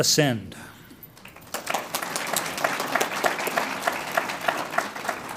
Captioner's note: audience applauds